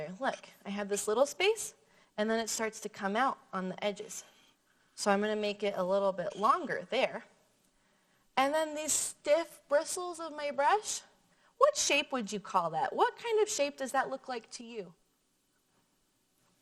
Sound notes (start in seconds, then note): none